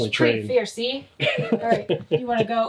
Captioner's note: laughing